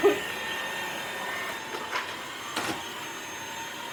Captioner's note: ft. vacuum sounds